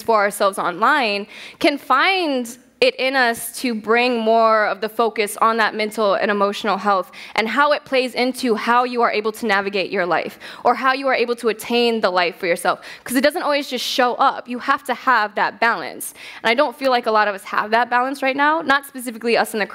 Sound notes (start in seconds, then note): none